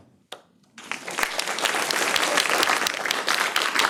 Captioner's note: clapping